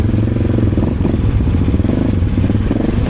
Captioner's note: wind